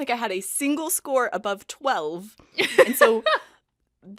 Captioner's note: Rover laughs